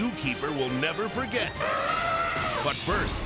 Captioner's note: elephant trumpeting